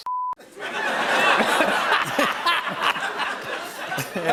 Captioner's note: laughter